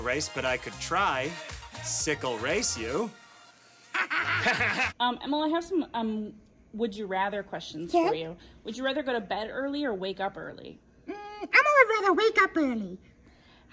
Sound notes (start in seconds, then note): 3.9 both laugh